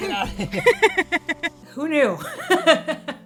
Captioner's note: they both laugh; laughs